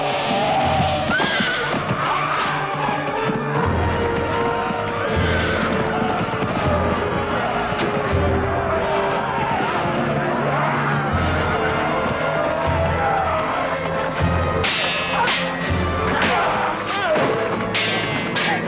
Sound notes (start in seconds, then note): 1.2 horse neighs; 14.7 swords clanging